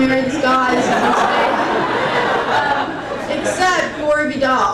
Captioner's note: crowd laughing